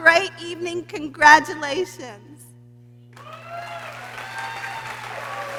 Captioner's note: people cheering